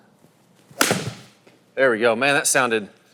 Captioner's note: golf ball clacking; voiceover